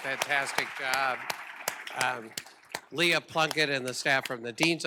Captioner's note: applause